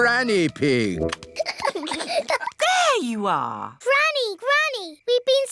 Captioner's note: peppa and george giggling